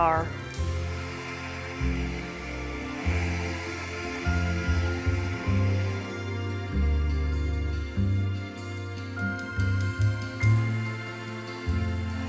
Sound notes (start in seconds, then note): 0.0 hair dryer whirring; 1.0 bright music